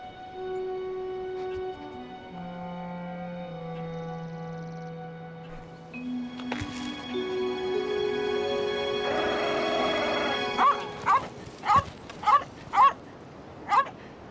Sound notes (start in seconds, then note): 6.6 suspenseful music; 11.6 dog barking